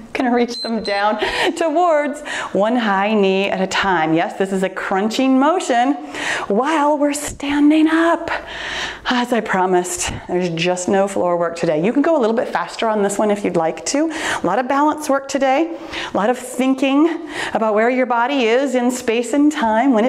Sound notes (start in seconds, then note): 0.4 timer beeps